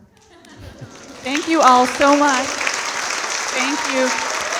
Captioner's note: audience applauding